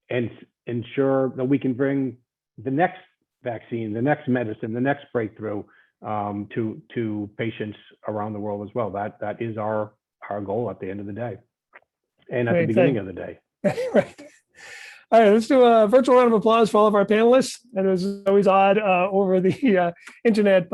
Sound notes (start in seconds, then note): 13.6 laughing